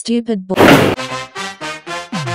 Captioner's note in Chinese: 打擊聲